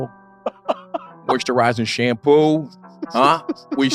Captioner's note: laugh; laughing